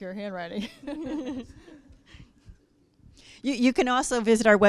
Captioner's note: laughing